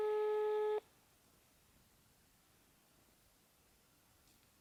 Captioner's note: dial tone